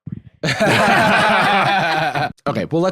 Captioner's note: all laughing